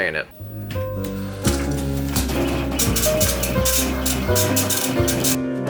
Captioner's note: papers printing; smooth jazz music